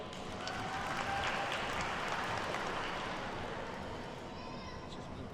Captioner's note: attendees cheer and clap